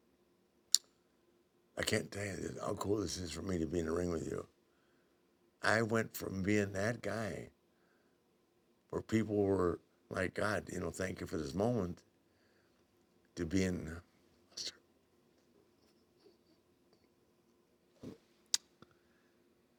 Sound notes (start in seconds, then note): none